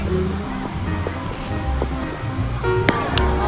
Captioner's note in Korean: 신난 발걸음